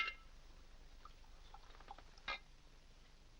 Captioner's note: liquid pouring